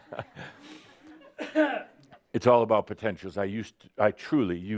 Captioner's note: Adamus chuckles